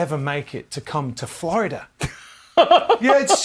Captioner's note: laughs